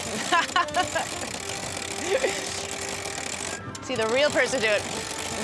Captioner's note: laughs